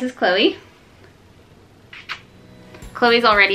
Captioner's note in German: kussgeräusche